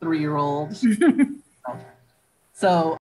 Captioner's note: laughing